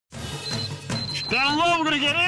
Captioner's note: beeping